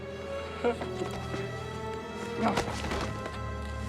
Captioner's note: groaning